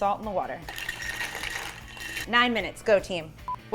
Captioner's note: rigatoni rattling